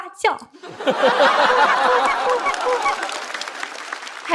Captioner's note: quack quack quack